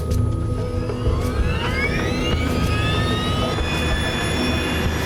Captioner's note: engines whining up